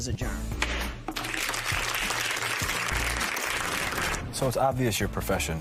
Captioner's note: applause